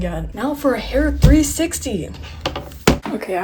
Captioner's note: thunk of macbook air going to sleep